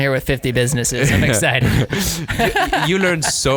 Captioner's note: laughing